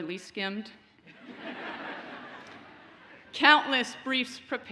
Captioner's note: audience laughs